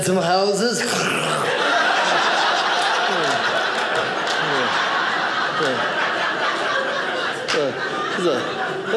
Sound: audience laughing

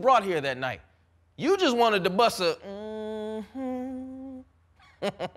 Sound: humming

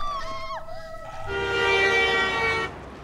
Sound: horn honks

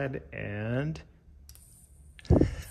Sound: lighter zaps; laughs

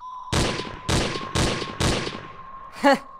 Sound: gunshot

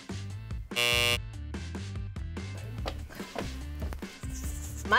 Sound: buzzer buzzing

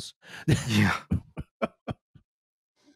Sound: light laughter

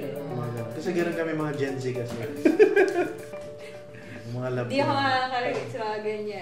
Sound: laughs

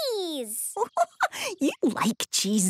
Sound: giggling

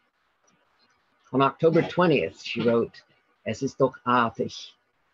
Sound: speaking in German

